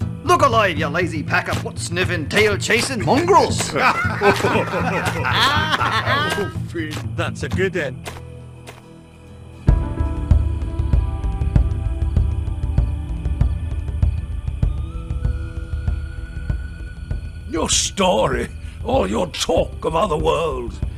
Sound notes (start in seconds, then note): 3.7 laughter